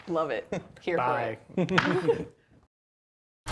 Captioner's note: laughing